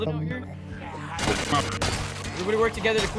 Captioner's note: consecutive slashing noises